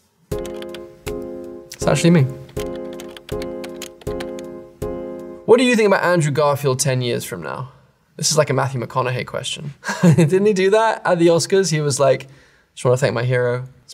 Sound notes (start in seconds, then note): 0.3 monotonous piano music; 2.6 keyboard keys clacking; 2.6 monotonous piano music; 9.9 chuckles